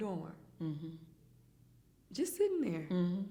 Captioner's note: hums in agreement